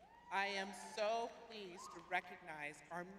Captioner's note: cheering